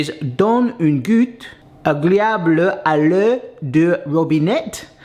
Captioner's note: speaks French